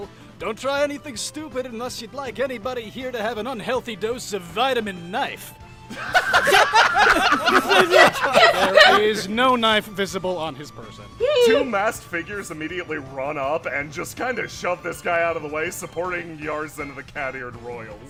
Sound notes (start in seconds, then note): 5.9 laughter